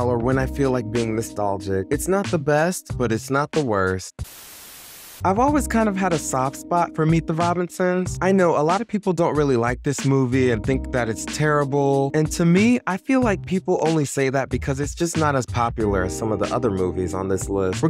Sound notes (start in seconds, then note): 4.2 static buzzing